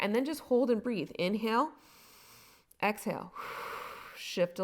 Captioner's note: inhaling; exhaling